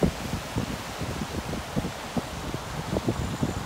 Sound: rushing water

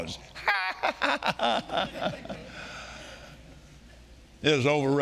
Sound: laughing

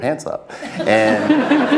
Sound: laugh

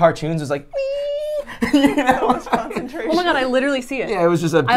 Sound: laughs

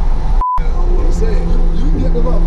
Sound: beeps

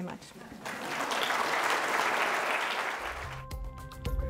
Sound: applause

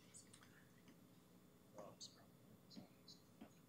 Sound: clerk and whispering

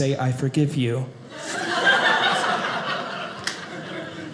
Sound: audience laughing

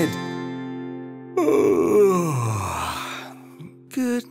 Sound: yawning

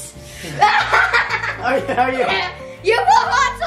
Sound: laughing

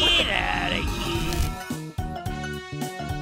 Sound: glitching noise

